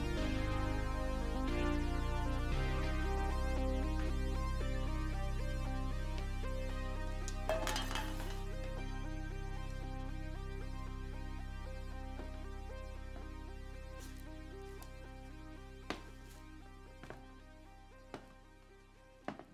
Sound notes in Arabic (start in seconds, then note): 7.1 رنين; 9.5 موسيقى إلكترونية إيقاعية مريحة